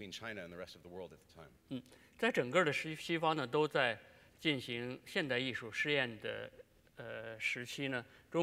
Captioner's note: speaking in Chinese